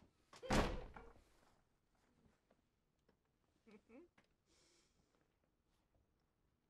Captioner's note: door slams; Betty chuckles